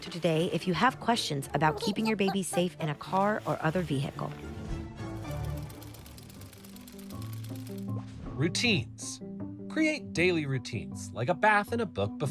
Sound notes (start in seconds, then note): 5.3 gears whirring; 5.8 bright music